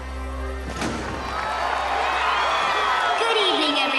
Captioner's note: cheers